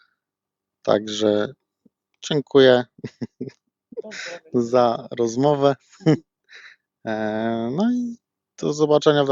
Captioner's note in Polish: śmiech